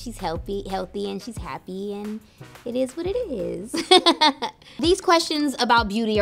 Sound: laughs

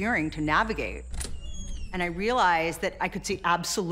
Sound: door creaking

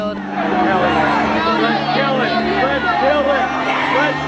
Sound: clamoring

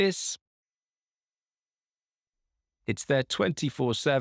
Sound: high pitched beep

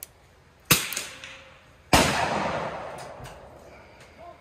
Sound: gun bangs; gun bangs

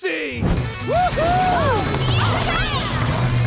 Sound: cheering

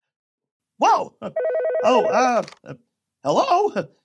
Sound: surprised

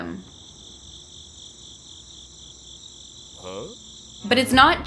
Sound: bird chirp

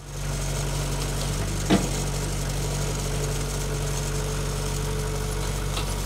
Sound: telehandler engine rumbling

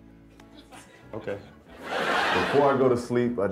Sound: crowd laughing

